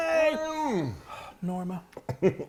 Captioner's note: sighing; giggling